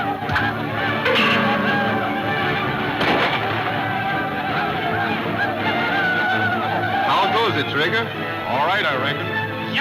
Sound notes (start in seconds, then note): 0.2 thudding; 2.8 gunfire pops